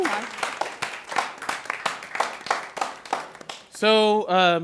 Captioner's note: applause